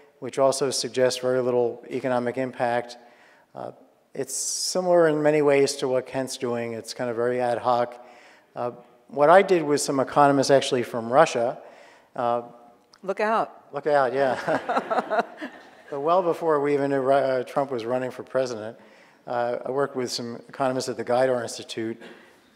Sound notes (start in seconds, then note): 14.3 audience laughing